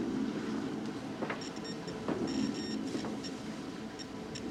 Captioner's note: beeping continues